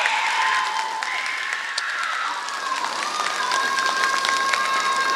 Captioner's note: applause